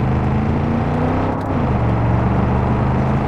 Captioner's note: engine revving